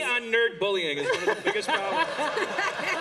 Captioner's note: laughter